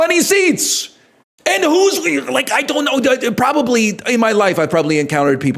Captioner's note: aneurysm sounds